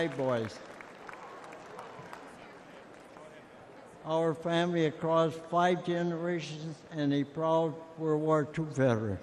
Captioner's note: applause